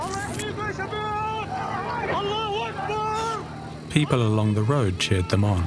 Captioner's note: Hamas fighters shouting in Arabic